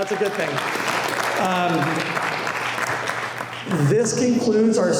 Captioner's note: applause